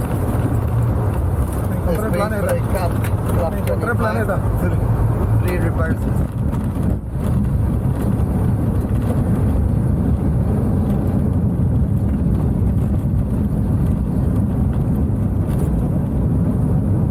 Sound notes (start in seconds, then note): 0.2 speaking in Foreign language; 10.7 aeroplane slows down